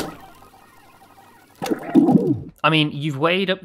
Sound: rewind sound

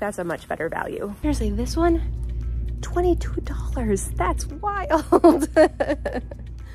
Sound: laughs

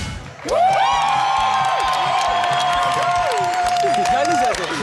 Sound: audience cheering

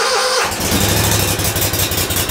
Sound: engine starts

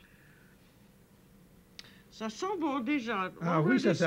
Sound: speaking French

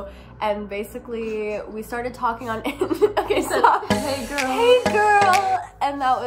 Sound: laugh

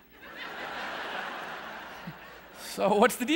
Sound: audience laughing

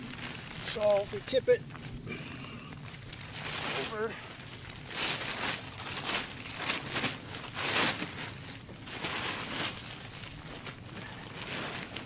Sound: tarp rustling

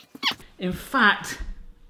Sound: toy squeaking

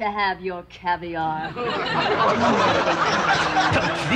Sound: audience laughter

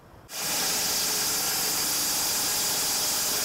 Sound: sawing

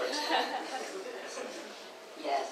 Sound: audience laughs

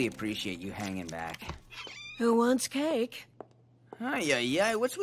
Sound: door opening

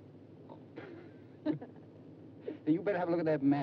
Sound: Dick and June chuckle

